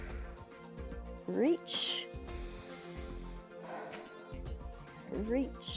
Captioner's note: inhales and exhales